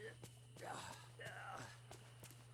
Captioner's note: Merlin Grunting